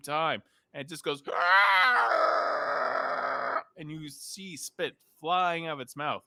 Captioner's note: screeches